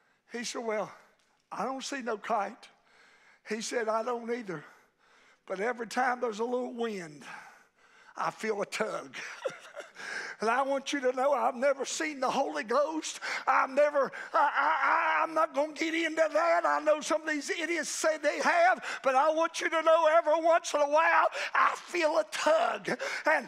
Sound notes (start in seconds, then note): 9.2 preacher laughing